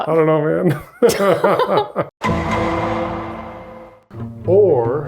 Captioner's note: laugh